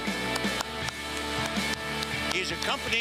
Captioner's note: applause